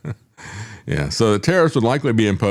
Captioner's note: laughing